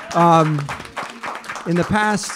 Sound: people clapping

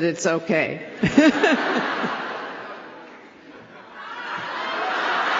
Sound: laughter

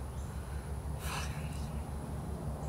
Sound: sighs "fuck" heavily

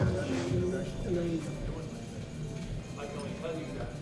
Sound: chatter

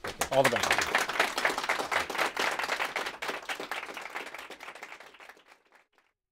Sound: applause

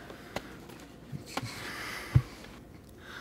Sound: sighs

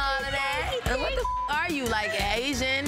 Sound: beep

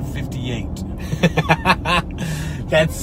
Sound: laughs

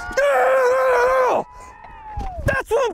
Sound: crowd cheering

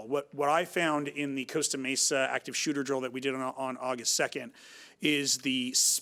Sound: none

